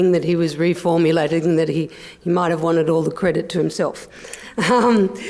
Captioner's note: laughs